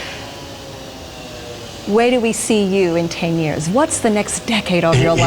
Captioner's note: laughing